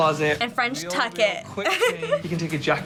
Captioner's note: laughs